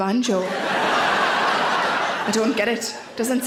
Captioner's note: audience laughs